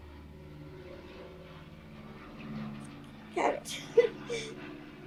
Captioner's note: crying